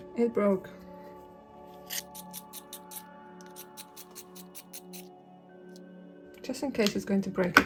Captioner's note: sharpening noise